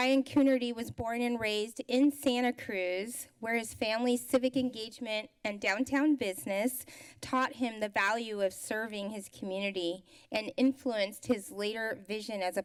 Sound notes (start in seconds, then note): none